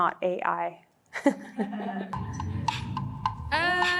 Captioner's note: laughing; upbeat music